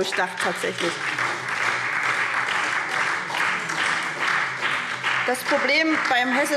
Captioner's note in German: Beifall SPD